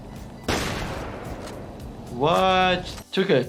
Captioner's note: gun firing